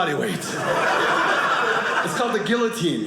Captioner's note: audience laughing